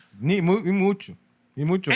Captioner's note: non-english Speech